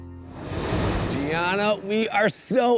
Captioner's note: light upbeat music continues; graphics whooshing